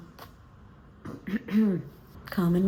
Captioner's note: clears throat